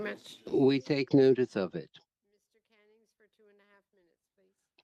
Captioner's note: speaking French